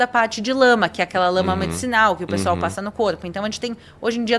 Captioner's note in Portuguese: limpando a garganta